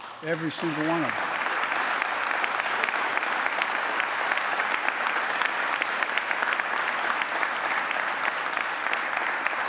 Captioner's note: applause